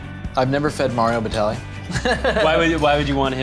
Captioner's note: laughs